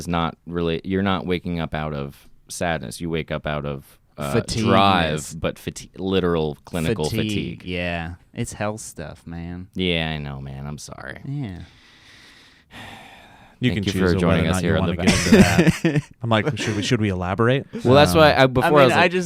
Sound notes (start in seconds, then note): 12.7 sighs; 15.0 laughs